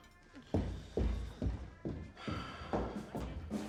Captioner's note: footsteps receding